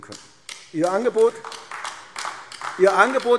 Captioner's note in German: Beifall AfD